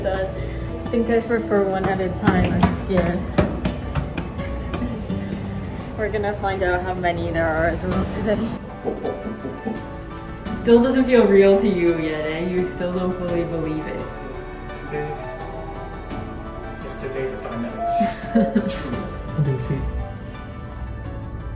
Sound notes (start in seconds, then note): 8.7 mimicking heartbeat